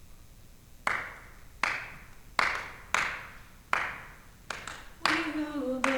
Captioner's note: performers clapping rhythmically